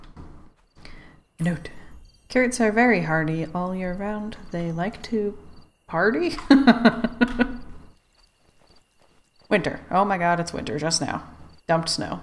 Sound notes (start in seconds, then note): 6.3 laughs